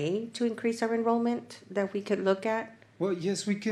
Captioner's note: none